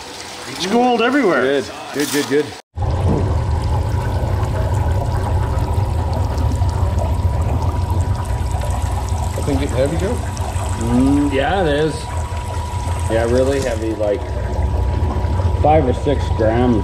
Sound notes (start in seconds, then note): 2.9 low rumbling; 5.3 water gurgling